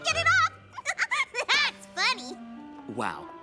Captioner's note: giggle